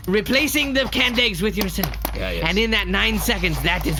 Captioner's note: tapping pen